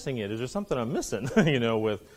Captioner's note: laughs